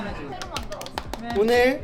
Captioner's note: applause